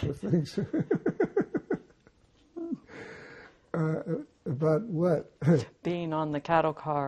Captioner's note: laughing